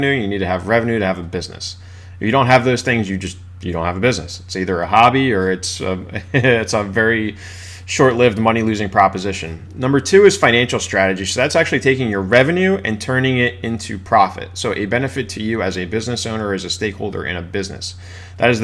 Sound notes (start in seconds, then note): 6.1 laughs